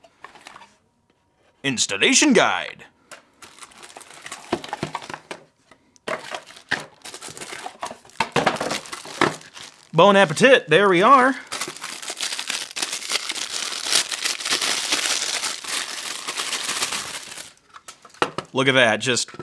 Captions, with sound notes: Installation guide. (plastic crunching) (objects thudding) (box thudding) (speaking foreign language), there we are. (plastic crinkling) Look at that, just